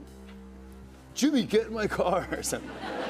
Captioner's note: laughter